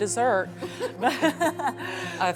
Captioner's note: laughs